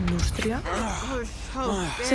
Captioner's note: moans